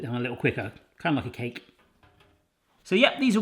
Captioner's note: none